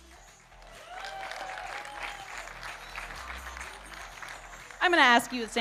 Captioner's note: audience cheering and applauding